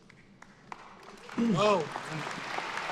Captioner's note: attendees applauding